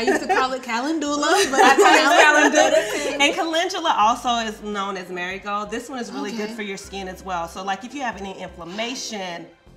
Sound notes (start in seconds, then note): 1.3 laughing